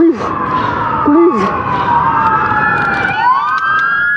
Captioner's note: sirs blaring